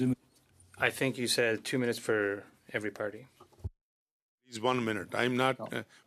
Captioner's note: speaking French